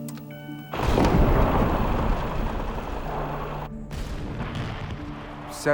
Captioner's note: beeping; booming explosions